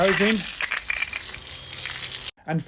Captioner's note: water going into pool from hose